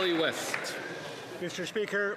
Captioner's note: applause